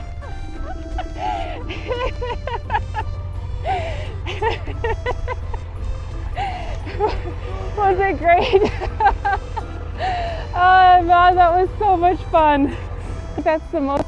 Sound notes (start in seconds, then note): 0.0 still Giggling; 3.6 more Laughing